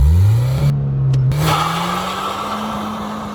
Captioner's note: vreeeem